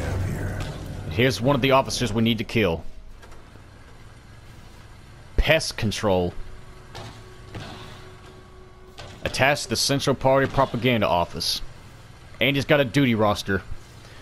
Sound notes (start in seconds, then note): none